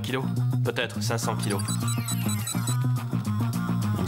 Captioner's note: computer beeping